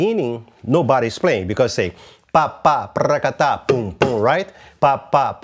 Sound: vocalizes rhythm

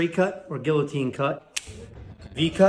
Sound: cutter snapping

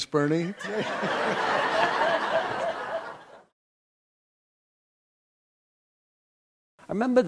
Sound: background laughter

